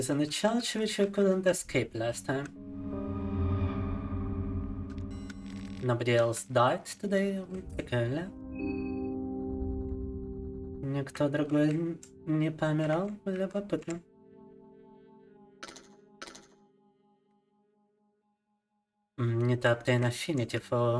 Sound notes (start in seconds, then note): 8.7 speaking in Russian